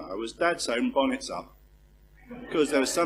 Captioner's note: laugh